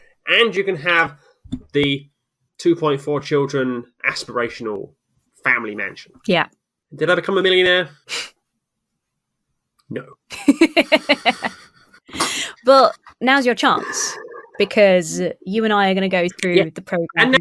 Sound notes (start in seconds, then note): 10.3 laughs